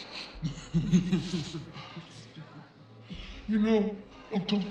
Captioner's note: demon laughing